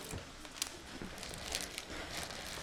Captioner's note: rustling